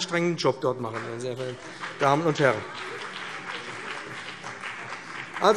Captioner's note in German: Beifall BÜNDNIS 90/DIE GRÜNEN und CDU